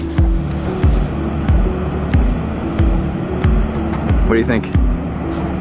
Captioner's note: waterfalls rushing